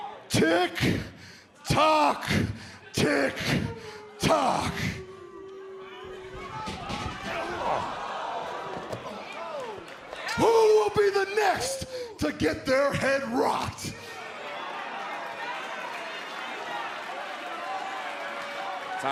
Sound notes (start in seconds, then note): 4.4 crowd cheering; 13.7 crowd cheering